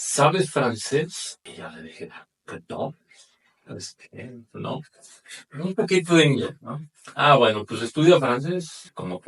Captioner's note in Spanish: carraspeo